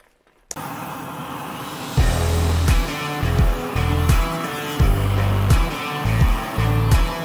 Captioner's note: torch flame roaring; upbeat rock music